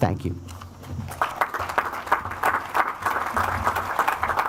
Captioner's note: audience applauds